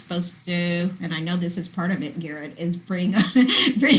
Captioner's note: laughing